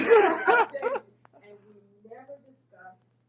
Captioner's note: laughter